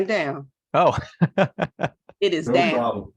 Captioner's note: laughs